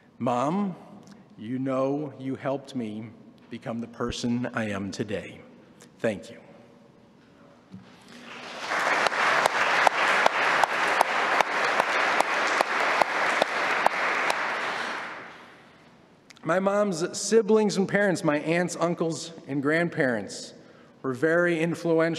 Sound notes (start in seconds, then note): 15.8 applause